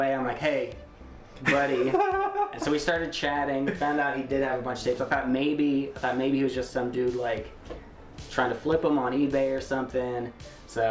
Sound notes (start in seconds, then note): 1.4 laughs